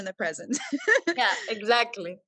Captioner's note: laughing